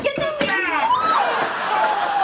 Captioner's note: shreaking; audience gasping